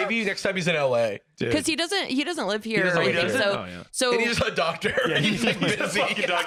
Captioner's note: laughing